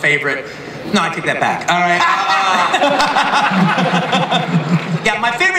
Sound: laughter

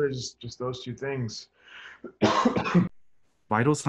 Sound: cough

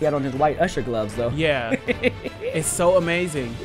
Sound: laughter

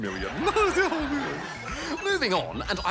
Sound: chuckles; laughter

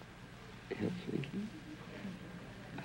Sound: whispering

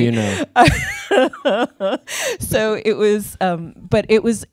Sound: laughs

